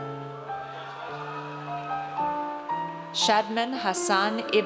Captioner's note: audience cheers